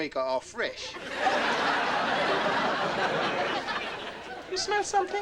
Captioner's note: audience laughing